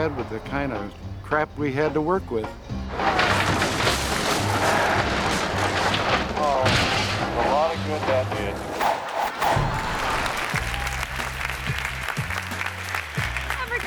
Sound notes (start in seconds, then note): 3.2 yacht crumbling; 9.7 audience applauding